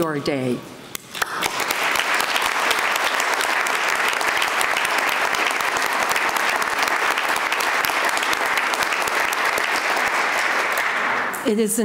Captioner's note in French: Applaudissements